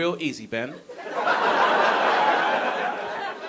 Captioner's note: audience laughing